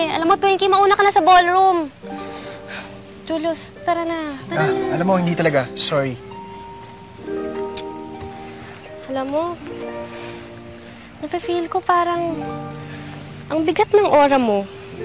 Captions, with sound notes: You know, go on to the ballroom. Julius, let's go. -Come on. -You know, sorry but no. [clicks tongue] You know what? I can feel that... your aura's really heavy.